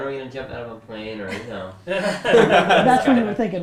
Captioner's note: group laughter